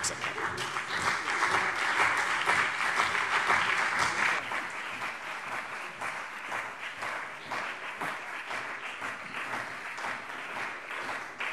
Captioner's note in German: Anhaltender Beifall CDU und BÜNDNIS 90/DIE GRÜNEN